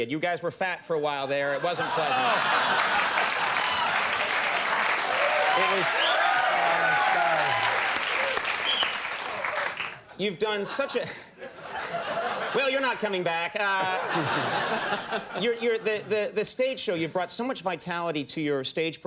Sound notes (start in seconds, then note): 1.8 audience clapping